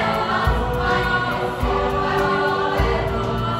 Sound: voices

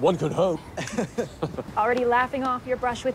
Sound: laughing

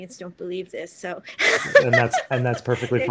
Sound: laughs

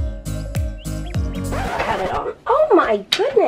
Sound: record scratch

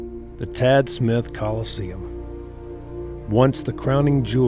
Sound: voiceover

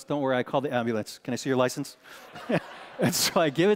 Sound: congregation laughing

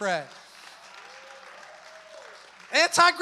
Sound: congregation applauds

